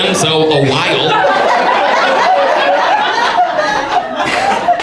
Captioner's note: audience laughs